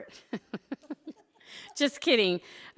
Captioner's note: laughing